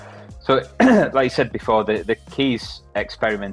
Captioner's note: throat clears